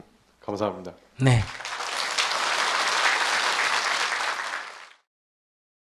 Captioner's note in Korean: 청중 박수